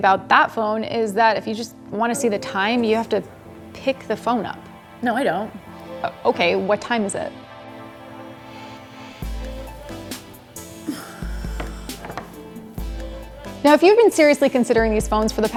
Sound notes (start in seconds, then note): 7.6 gentle music; 10.9 sigh